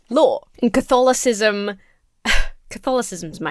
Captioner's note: chuckles